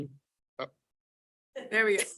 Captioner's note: participants laughing